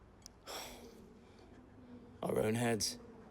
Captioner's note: sighs